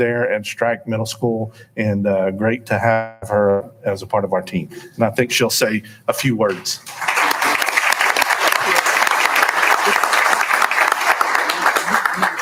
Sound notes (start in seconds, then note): 6.5 applauding